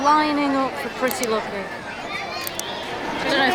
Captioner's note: laughs